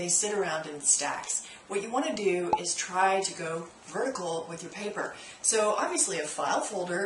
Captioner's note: pop